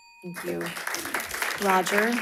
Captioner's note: audience applauding